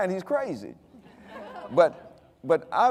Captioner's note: audience laughing